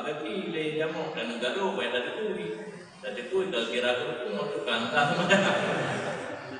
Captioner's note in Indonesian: hehehe